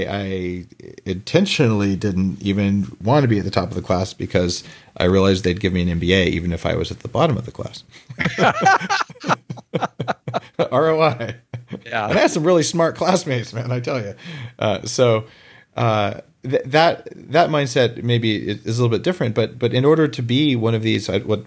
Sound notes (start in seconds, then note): 8.0 both laugh